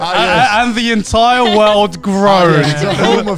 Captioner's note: laughing